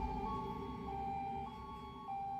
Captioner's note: ambulance blaring